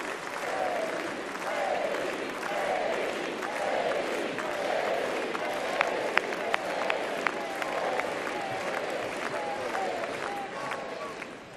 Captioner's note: applause